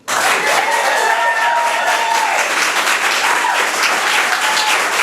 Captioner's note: cheering and applauding